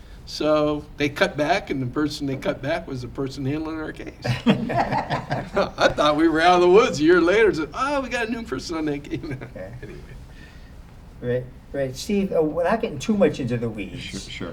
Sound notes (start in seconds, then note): 4.2 laughter